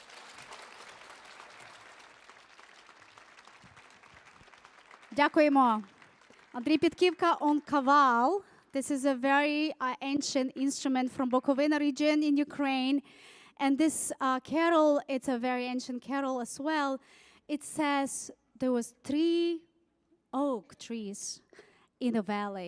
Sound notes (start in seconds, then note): 0.0 audience applauding; 5.2 speaking foreign language